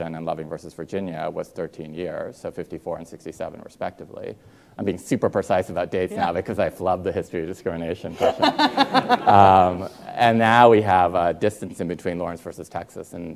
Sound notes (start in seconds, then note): 8.2 Rachel and audience laughing